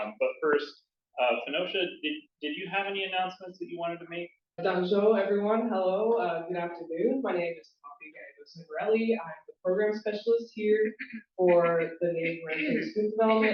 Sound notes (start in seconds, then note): 4.9 non-english